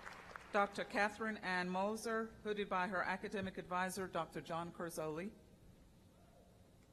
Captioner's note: applause